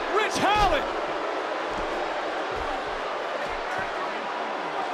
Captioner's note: crowd boos